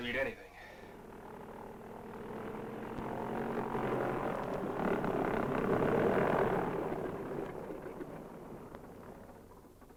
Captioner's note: aircraft engine rumbles